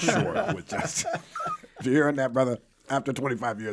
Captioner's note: laughing